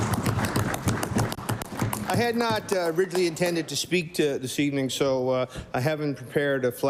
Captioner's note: applause